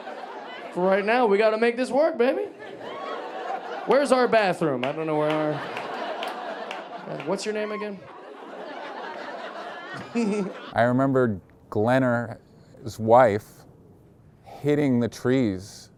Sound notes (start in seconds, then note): 9.0 audience laughing